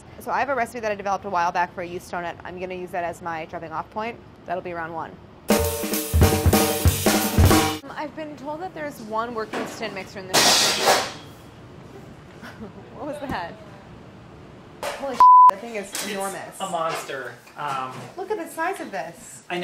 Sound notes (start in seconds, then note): 5.5 upbeat jazzy music; 10.6 crashing; 15.2 beeping